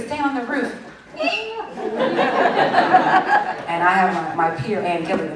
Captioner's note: laughter